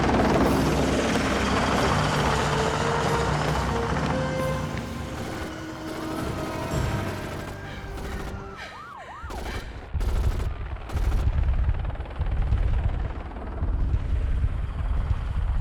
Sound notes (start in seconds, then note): 8.0 sirens wailing; 9.2 guns firing